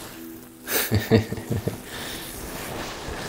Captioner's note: chuckles